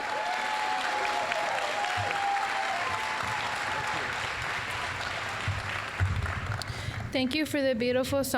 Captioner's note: applause, cheering